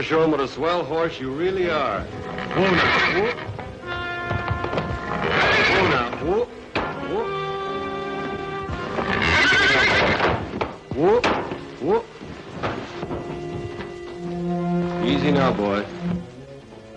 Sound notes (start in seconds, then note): 1.6 horse neighing; 8.7 horse neighing